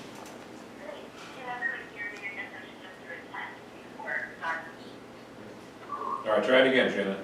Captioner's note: speaks indistinctly over speakerphone